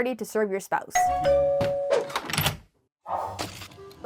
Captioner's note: doorbell ringing